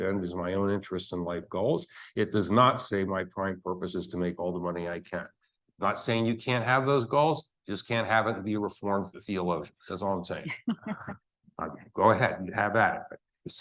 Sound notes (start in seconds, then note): 10.8 laughing